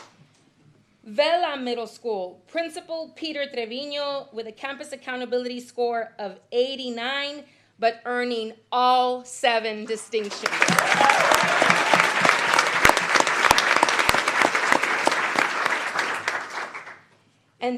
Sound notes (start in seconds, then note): 13.7 applause